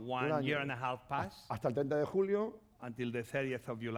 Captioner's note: speaking spanish